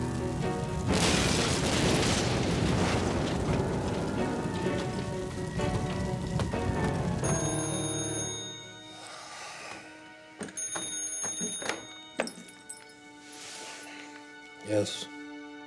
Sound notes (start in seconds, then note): 0.0 explosion booms; 5.0 phone rings; 5.0 siren wails in distance; 8.9 Johnny sighs; 8.9 slow dramatic music